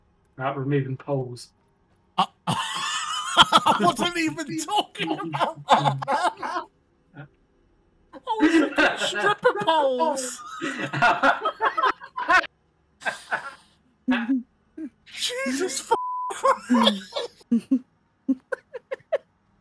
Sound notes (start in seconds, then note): 2.1 shocked noises; 2.2 laughs; 10.5 everyone laughs; 18.2 laughter continues